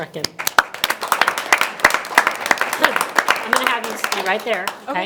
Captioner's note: everyone applauds